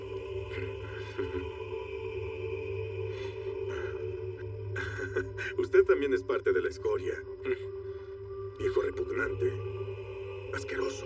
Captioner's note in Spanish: Ríe